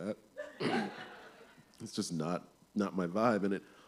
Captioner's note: laughter